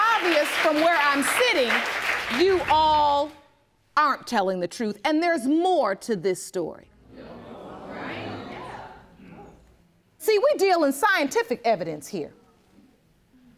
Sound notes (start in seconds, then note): 7.0 audience murmuring